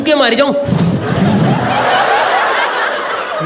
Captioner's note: Imitating someone blowing air